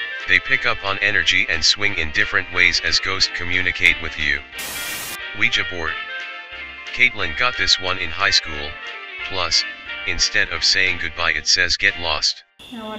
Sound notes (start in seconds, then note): 4.6 white noise hisses